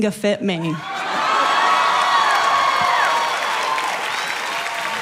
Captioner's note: people cheering